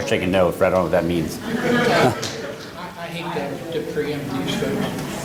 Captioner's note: laughter